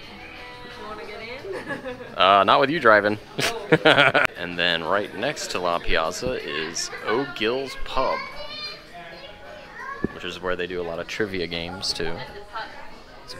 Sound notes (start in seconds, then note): 1.4 laughs; 3.4 laughs